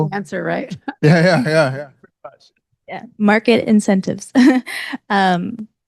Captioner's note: laughs; laughs